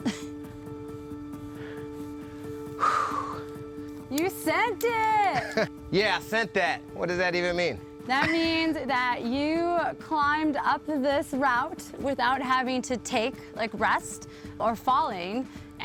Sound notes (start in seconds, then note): 0.0 laughs; 2.8 sighs